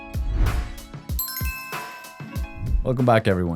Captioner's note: lounge music; doorbell chiming